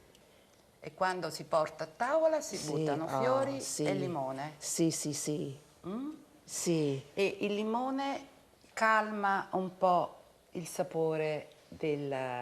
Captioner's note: speaking Italian